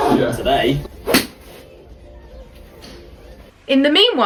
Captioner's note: club whacks